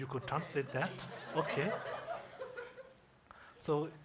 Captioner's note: audience laughs